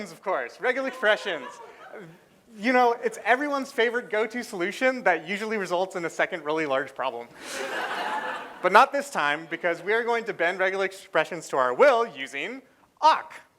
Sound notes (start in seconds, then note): 7.4 laughter